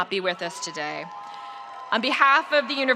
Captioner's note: spectators cheering